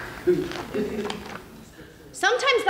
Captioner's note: audience laughs